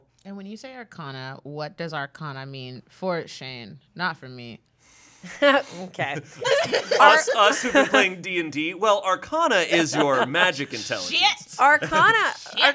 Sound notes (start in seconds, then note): 6.1 everyone laughs